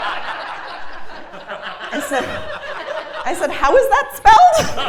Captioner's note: laugh